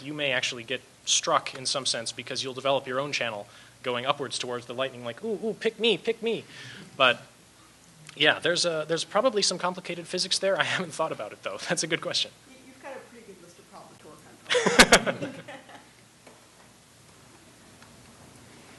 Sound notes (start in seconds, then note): 12.6 voiceover; 14.5 laughs